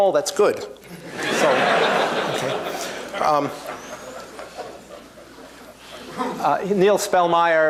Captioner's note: laughter